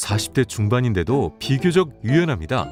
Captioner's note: voiceover